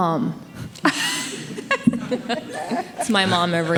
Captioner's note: group laughing